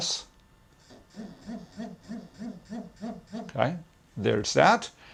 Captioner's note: pulsating vibration